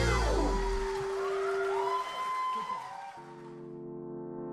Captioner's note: audience applauding